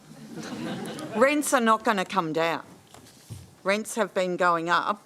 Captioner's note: laughter